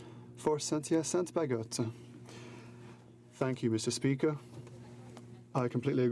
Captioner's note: speaking in french